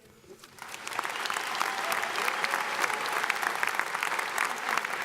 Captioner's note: audience applauds